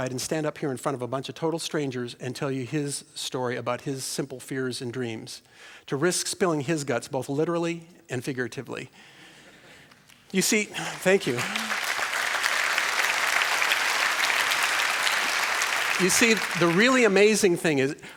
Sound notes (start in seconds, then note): 10.4 applause